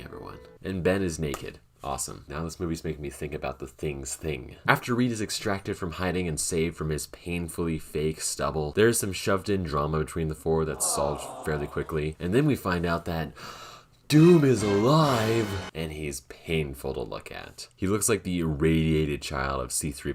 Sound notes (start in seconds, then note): 13.3 gasp